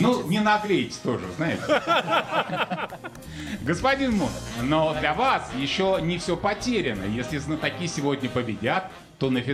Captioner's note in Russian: смех